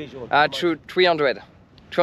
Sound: speaking in foreign language

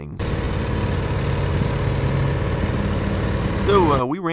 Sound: loud engine

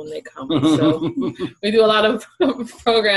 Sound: laughs

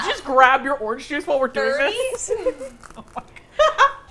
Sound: all laugh

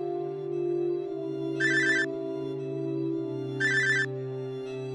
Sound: phone rings

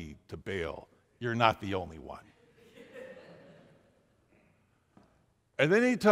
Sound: laughing

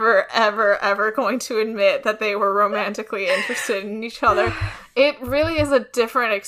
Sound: laughs

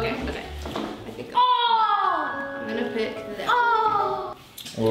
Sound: screams

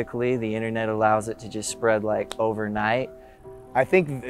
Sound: snaps

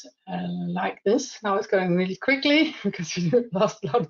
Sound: laughs

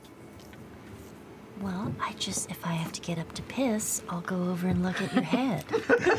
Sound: laughs; laugh

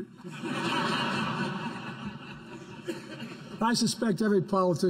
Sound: laughter

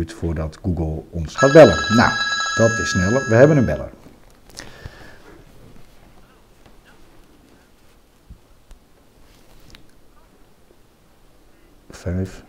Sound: phone rings

